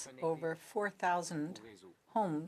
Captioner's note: speaking French